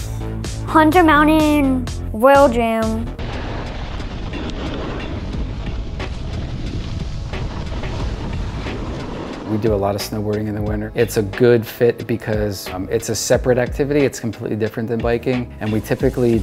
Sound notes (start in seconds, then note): 3.3 wind